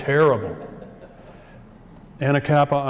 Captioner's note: audience chuckles